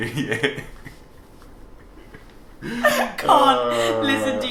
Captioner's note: laughs